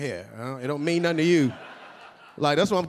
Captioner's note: audience laughing